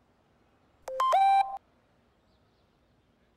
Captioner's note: message beep